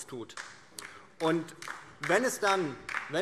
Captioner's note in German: Beifall DIE LINKE